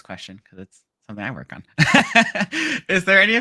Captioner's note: laughing